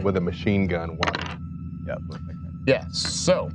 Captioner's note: dice rolling